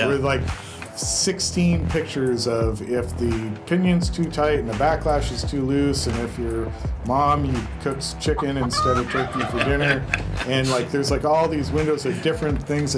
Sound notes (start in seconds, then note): 8.3 laughs; 8.3 turkey gobbles; 8.4 chicken clucks